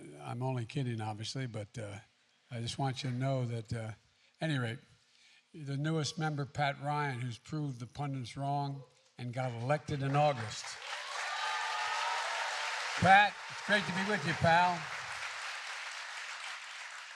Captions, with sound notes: I'm only kidding, obviously. But I just want you to know that -- at any rate -- And the newest member, Pat Ryan, who's proved the pundits wrong and got elected in August. (Applause.) Pat, it's great to be with you, pal.